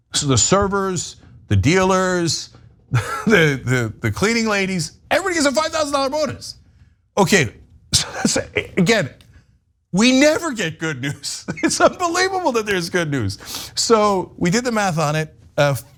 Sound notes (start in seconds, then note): 2.9 laugh; 10.9 laugh